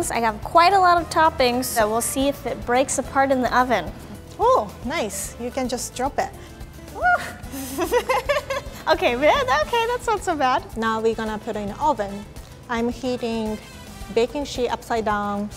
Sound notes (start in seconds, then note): 6.9 yelling; 7.2 laughing